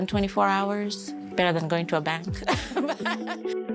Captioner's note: laughs